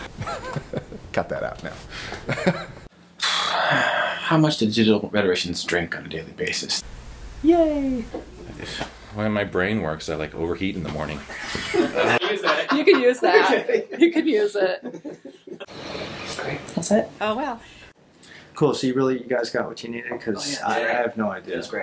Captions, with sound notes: Cut that out. [laughter] [sigh] How much do digital rhetoricians drink on a daily basis? Yay! The way my brain works I like overheat in the morning. [laughter] You can use that. You can use it. That's it? Oh well. Cool so you really--you guys got what you needed? 'Cause I have no idea.